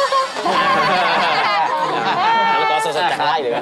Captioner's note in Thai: หัวเราะ